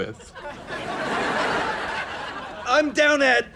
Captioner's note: laughs